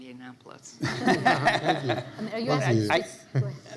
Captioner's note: laughs